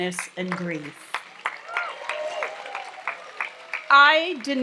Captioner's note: audience applauds